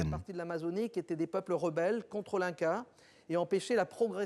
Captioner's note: French spoken audio